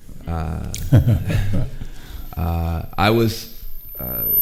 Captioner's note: chuckles